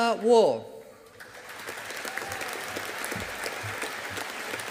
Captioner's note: audience applauding